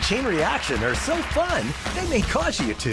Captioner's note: applause